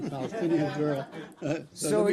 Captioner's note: laughter